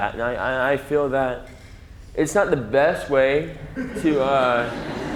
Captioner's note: audience laughs